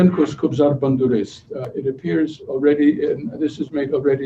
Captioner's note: non-english speech